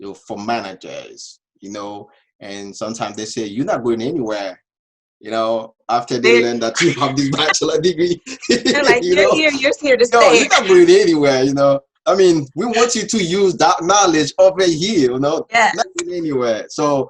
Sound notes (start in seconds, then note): 6.0 both laughs; 10.2 laughs